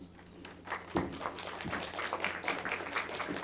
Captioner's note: applause